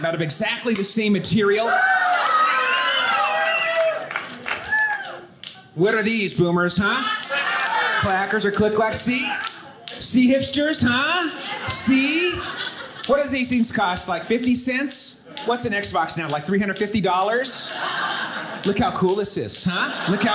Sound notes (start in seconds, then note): 1.4 audience cheering; 17.4 audience laughing